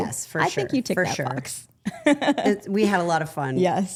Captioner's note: laughs